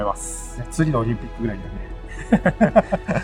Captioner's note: laughs